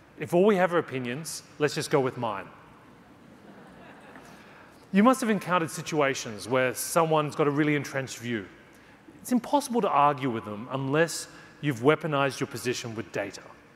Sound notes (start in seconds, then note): 3.3 audience laughing